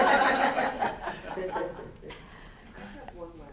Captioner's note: students laughing